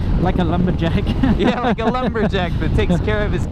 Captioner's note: both laugh